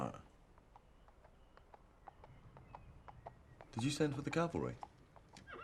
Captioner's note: hooves clomping